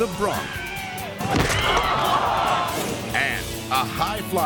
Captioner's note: head thuds